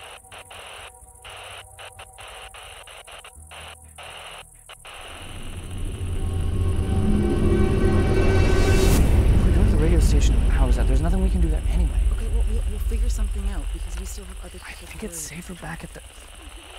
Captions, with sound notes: (machine roaring) - Go to the radio station. How is that? There's nothing, we can do that anyway. - Okay. Well, we'll, we'll figure something out. 'Cause we still have other- - I think it's safer back at the-